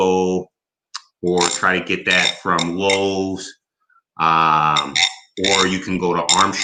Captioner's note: tool drags on bowl